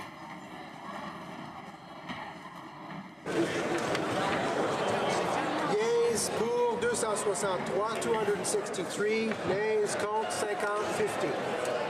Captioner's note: some Applause